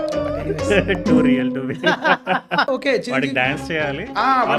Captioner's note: host Laughing Hysterically